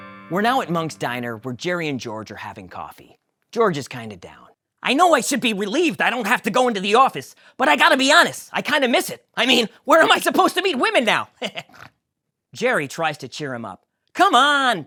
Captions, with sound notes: We’re now at Monk's Diner where Jerry and George are having coffee. George is kind of down. I know I should be relieved I don't have to go into the office, but I gotta be honest, I kind of miss it. I mean, where am I supposed to meet women now? [laughs and snorts] Jerry tries to cheer him up. Come on...